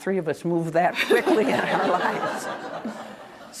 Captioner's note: laughter